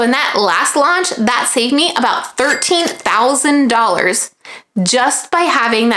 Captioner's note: bell dings